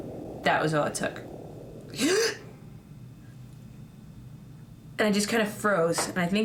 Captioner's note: gasp